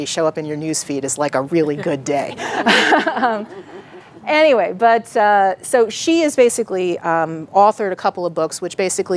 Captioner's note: laughing